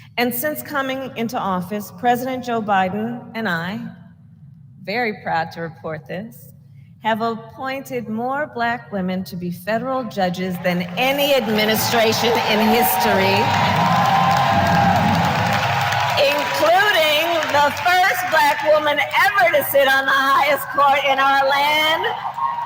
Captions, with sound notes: And since coming into office, President Joe Biden and I -- very proud to report this -- have appointed more Black women to be federal judges than any administration in history -- (applause) -- including the first Black woman ever to sit on the highest court in our land: